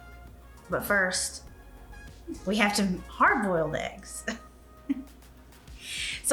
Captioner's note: laughs